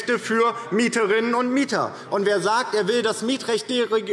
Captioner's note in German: none